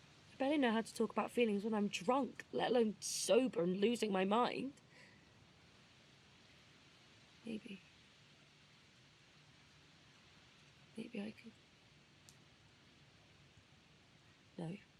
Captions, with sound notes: I barely know how to talk about feelings when I’m drunk, let alone sober and losing my mind. Maybe… maybe I could… [SILENCE.] No.